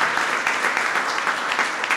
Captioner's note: applause